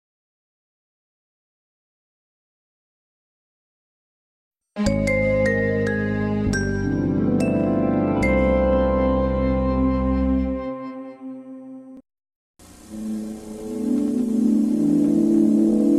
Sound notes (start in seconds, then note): 4.8 remastered chime plays; 12.8 70s synthesizer music playing